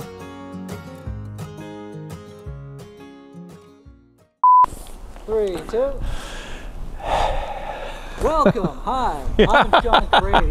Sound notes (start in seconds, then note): 0.0 gentle guitar music; 4.4 beep; 9.4 laughs